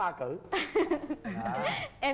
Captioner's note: laugh